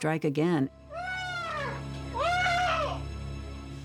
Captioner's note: muffled screaming